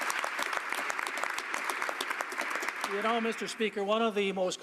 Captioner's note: applause